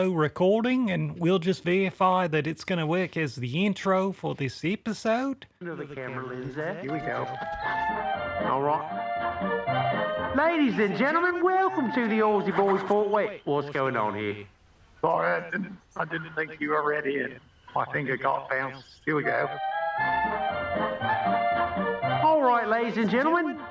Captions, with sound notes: recording and we'll just verify that it's... ...gonna work as the intro for this episode. [distant scratchy recording from Marvin's pouch] Where's the camera lens at ...here we go. All right. [Intro music] Ladies and gentlemen welcome to... ...the Aussie Boys Pod...Wait! What's going on here? Sorry, I didn't think you were ready. I think, I got bounced. Here we go All right, ladies and gentlemen, welcome to...